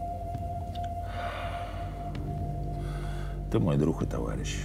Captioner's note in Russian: выдыхает